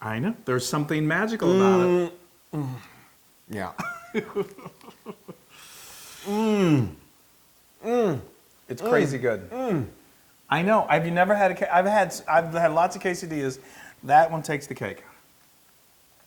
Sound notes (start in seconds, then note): 3.8 laugh